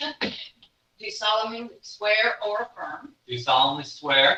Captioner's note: laughing